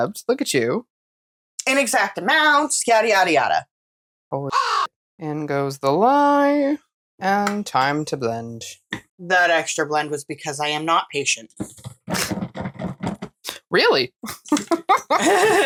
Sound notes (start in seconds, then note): 4.5 caw